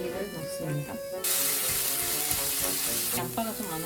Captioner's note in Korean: 지글지글